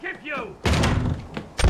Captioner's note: door breach